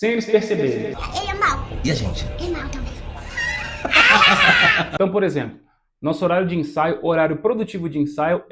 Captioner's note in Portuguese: risadas